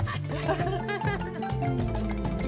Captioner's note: laughter